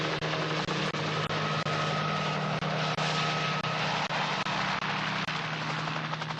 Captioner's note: helicopter sound